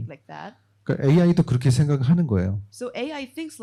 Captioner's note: speaking korean